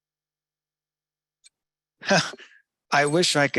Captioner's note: chuckles